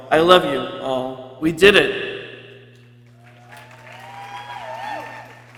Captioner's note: people cheering